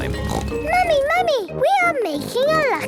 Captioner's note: snorts